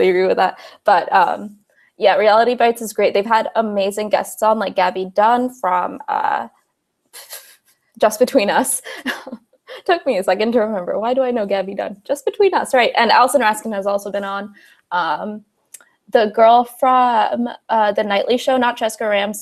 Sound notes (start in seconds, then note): 5.9 laughs